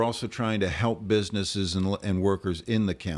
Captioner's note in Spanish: Hablando ingl\s